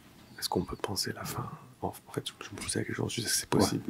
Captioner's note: non-english speech